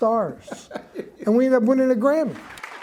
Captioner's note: laughs; audience applauds